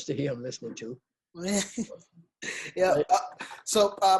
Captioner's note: laughs